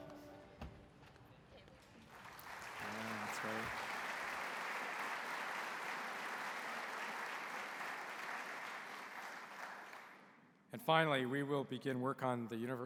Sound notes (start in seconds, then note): 5.7 applause